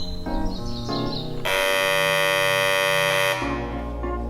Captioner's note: buzzer sound